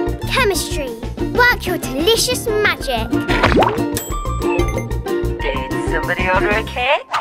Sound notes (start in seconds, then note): 3.2 bubble popping